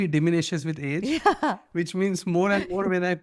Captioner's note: laughs